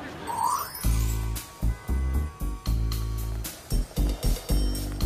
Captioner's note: cars honking